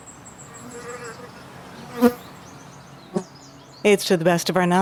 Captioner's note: birds chirping; bee buzzing